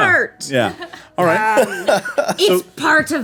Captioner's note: laughing